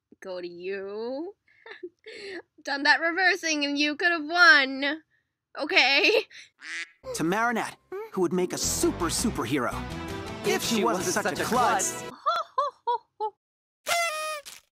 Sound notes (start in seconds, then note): 1.5 chuckle; 6.6 quack; 13.8 party horn